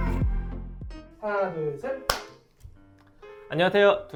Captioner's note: clap!!!